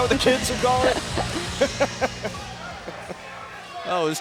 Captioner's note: crowd cheering